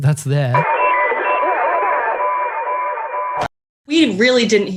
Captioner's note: radio voice playing in record